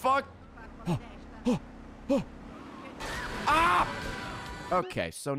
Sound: gasps

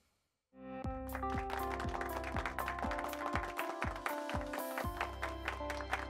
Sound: upbeat music; hands clapping

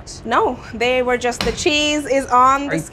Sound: slaps table

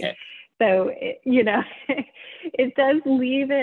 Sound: laughs

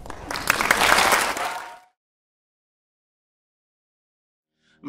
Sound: audience applauds

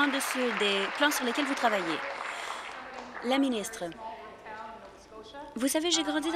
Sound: applause

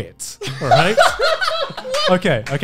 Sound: laughing

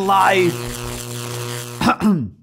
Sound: buzzing; clearing throat

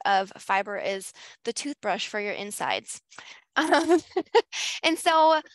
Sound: laughs

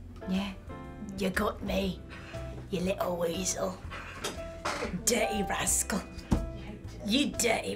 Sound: in "English" accent

